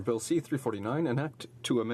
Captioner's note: speaking French